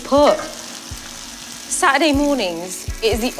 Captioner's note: pan sizzles